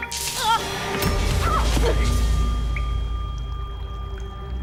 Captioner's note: scream